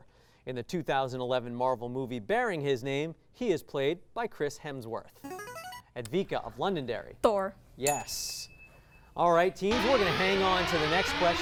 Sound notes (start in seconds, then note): 5.2 signaling device tone; 7.8 ding